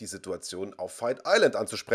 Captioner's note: laughs